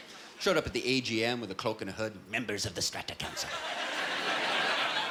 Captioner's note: Imitating Palpatine